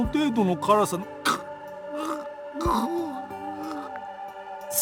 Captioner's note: gag